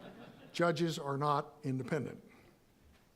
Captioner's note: audience laughing